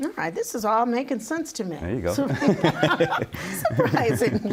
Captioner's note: laughing